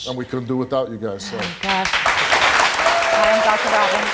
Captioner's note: crowd applauding